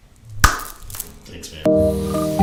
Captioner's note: hand clap